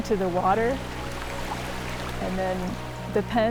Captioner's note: water rushing and bubbling